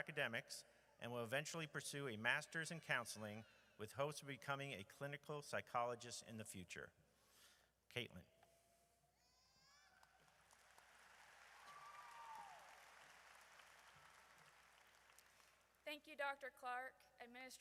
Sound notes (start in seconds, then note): 10.0 audience applauds; 10.7 audience cheers